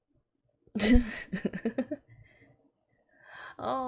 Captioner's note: laughs